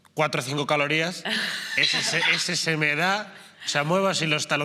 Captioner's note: laughing